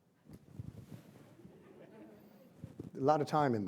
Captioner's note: audience laughs